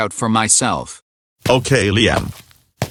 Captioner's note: footsteps